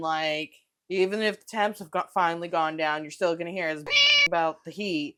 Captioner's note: meow